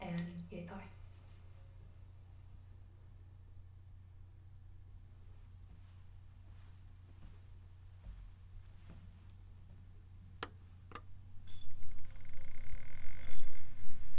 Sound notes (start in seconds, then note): 10.7 radio clicks